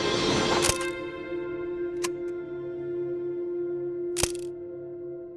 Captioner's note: camera shutter clicking